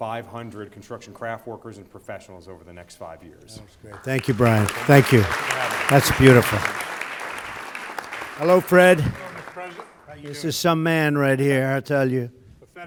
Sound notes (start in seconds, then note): 3.7 applause